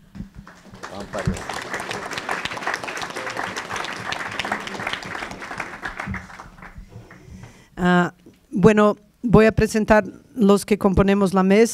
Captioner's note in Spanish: Aplausos